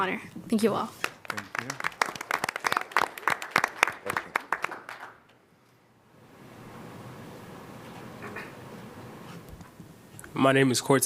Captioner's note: applause